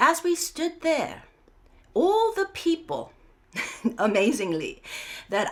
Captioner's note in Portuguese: risos